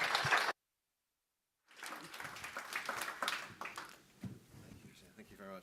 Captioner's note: audience claps